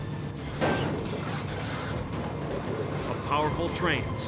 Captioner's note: vehicles thudding